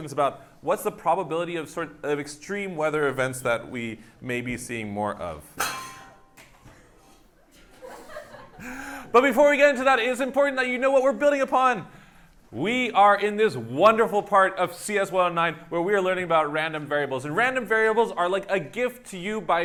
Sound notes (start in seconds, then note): 5.5 metal clangs; 7.5 laughter